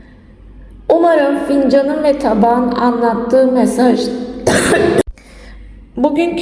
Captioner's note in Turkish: boğazını temizler